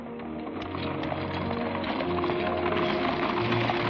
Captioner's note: horses galloping